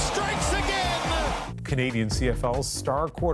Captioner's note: crowd noise